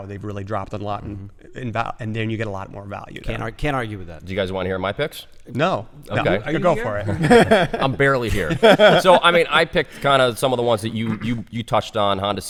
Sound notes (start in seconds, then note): 6.8 laughter